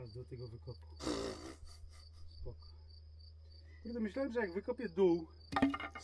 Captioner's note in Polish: parsknięcie